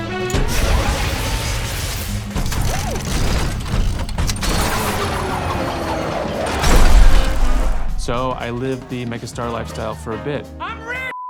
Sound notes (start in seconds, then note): 0.2 robots whirring; 5.8 crowd cheering, applauding